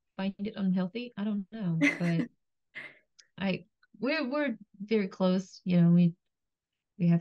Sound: laughs

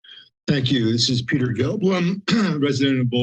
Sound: clear throat

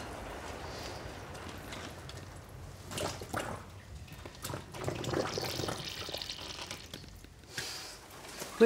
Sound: squelching water

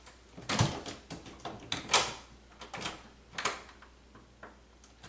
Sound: unlocking and relocking door

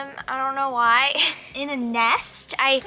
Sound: giggles

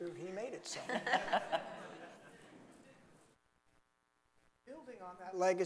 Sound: audience laughing

